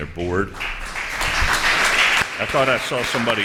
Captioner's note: applause